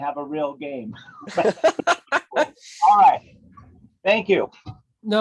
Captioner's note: laughs